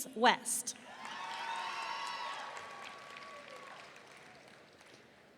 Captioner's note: audience cheering